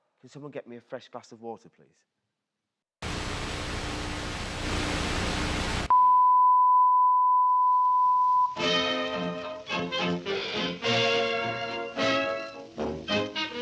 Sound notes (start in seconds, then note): 3.0 static buzzing; 5.8 signal beeping